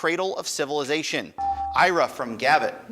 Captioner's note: buzzer dinging